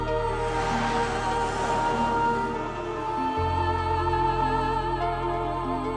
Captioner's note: wordless vocal music; static buzzing